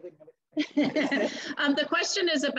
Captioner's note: laughter